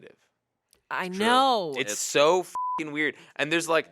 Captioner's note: beep